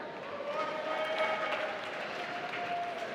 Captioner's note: applause